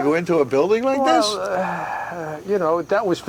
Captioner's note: sighs